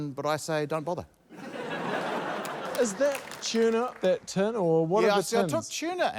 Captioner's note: laughter